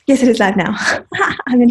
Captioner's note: laughs